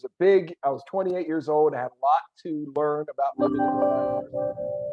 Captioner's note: phone rings